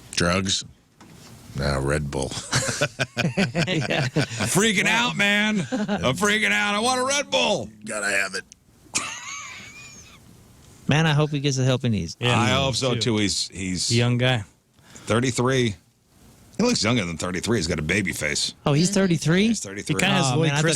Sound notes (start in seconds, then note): 4.0 laughing; 8.9 laughing